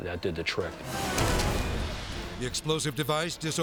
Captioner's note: flash bang grenade blasting